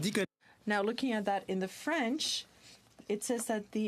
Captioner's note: speaking French